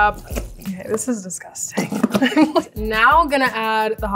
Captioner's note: laughing